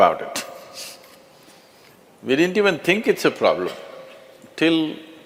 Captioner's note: laughs